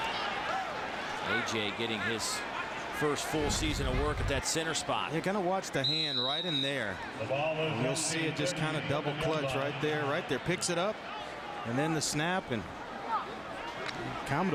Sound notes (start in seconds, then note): 3.5 crowd noise